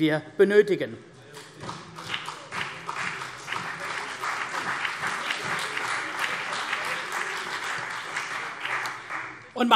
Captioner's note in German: Beifall CDU und BÜNDNIS 90/DIE GRÜNEN